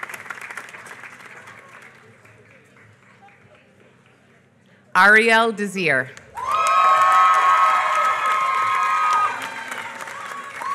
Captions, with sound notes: Arielle Desir. [APPLAUSE]